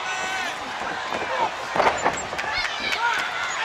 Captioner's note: crowd chatter